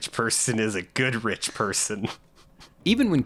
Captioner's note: chuckling